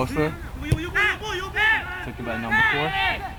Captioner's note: players shouting